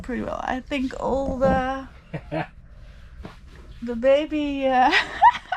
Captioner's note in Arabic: يضحك